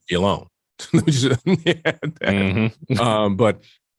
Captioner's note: laughs